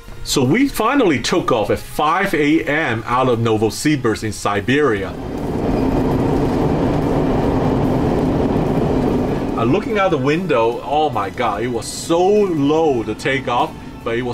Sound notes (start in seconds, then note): 4.9 air plane engine roaring